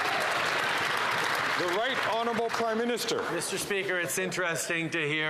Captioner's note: some Applause